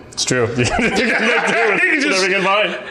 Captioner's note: laughing